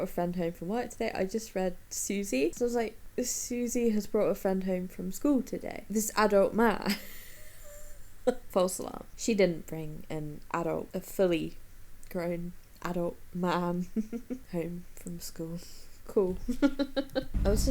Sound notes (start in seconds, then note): 7.7 wheezes; 16.4 laughs